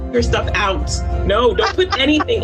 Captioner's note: laughs